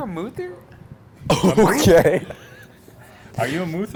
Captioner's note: laughs